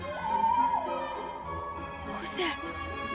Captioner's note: owl hooting